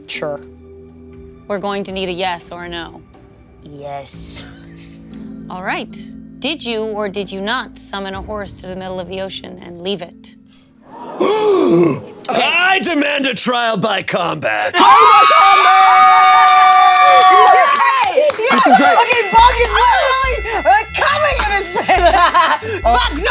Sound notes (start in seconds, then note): 10.9 audience and Damien gasping sharply; 14.7 audience and players screaming hysterically